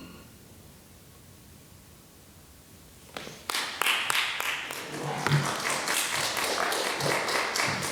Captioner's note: applause